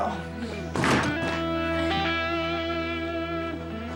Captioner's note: objects banging